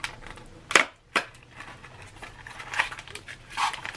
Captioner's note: box opening